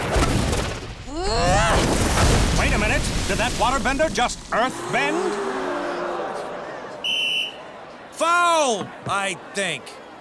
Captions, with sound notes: [groaning] Wait a minute! Did that waterbender just earthbend? [gasping] [whistle blowing] Foul! I... think.